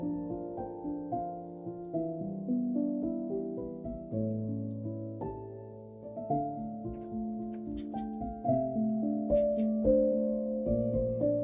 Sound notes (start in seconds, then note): 1.5 melancholic music continues; 7.2 switches clicking